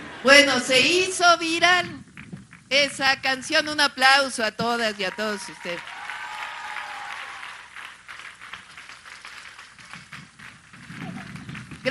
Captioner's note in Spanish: aplausos